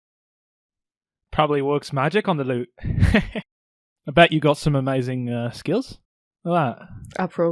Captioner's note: chuckles